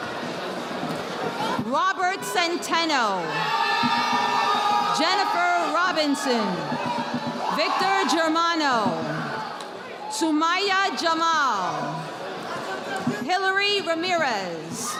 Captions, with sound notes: Robert Centeno. (audience applauding) Jennifer Robinson. Victor Germano. Sumaya Jamal. Hillary Ramirez.